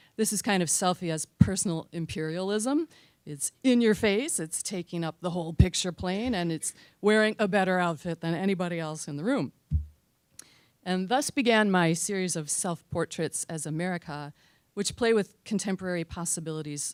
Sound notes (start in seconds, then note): none